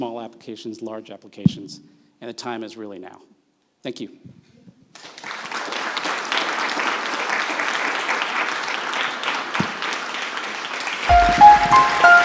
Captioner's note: audience Applauding